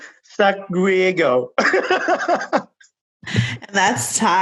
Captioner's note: laughing